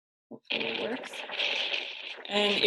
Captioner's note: wind crackling